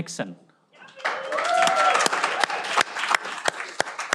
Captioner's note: cheering